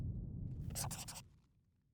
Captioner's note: scribbling